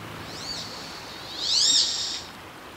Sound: duck quack

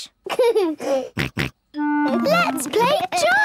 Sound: giggles, snorts

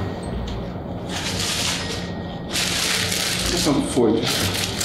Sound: paper crinkling

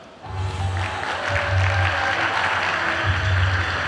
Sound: audience applauding; upbeat music

